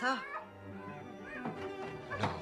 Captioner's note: Helen Crying